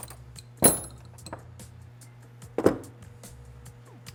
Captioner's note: clanking